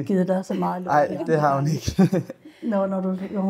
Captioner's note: laughter